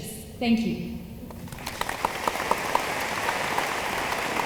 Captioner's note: room applauds